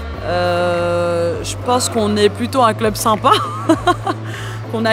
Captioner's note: laughs